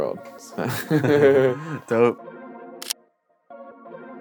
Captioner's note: laughs